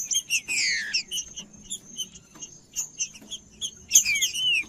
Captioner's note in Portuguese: trinca ferro cantando